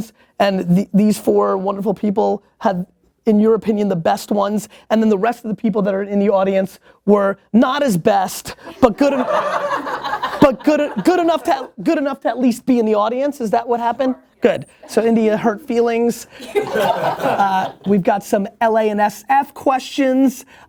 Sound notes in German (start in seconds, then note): 8.7 Lachen; 16.3 Lachen